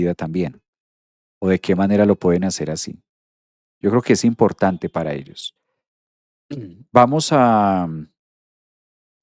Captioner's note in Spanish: carraspeo